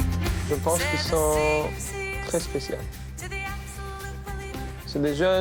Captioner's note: speaking in foreign language